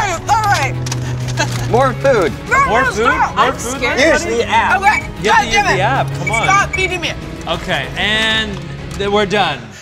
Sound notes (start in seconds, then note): 6.2 app beeps